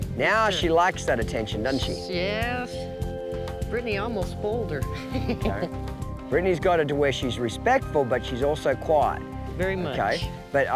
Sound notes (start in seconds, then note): 5.0 laughs